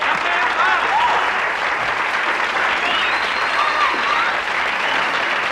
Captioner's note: audience applauding